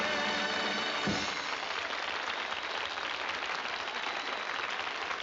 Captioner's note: applause and cheering